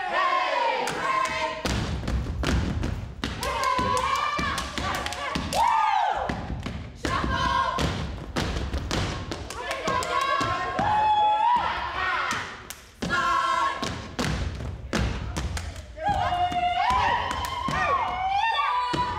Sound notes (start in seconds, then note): 1.7 group cheer; 9.5 group cheer; 15.9 group cheer